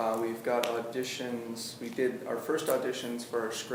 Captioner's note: none